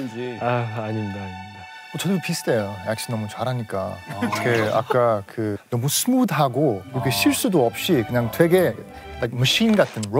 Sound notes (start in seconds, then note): 4.1 laughing